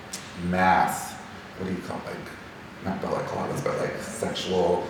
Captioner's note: speaking faintly